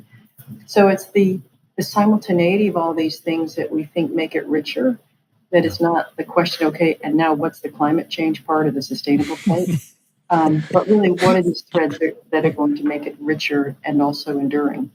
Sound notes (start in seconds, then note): 9.1 laughs